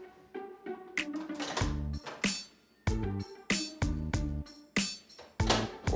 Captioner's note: rummaging